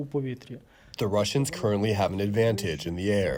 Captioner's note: through translator